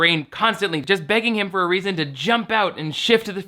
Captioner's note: none